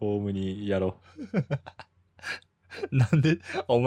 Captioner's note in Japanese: 笑い